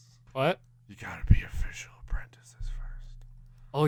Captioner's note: whispering